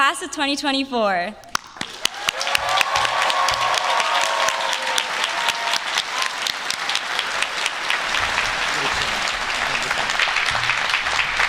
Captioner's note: applause